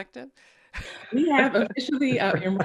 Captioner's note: laughs